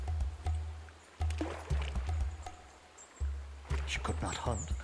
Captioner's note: water splashes